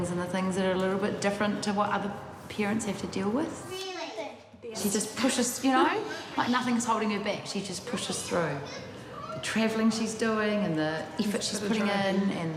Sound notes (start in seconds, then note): none